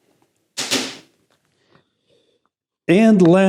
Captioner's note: case snaps